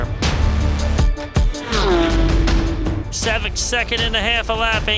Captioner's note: engine revving